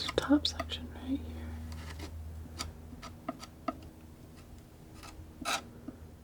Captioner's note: scratching